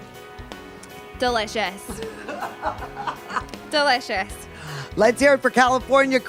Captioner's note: laughs